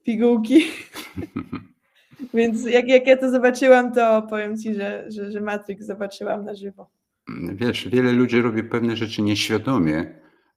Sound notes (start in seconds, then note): 0.6 laughter; 7.3 throat clearing